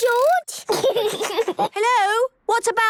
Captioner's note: giggles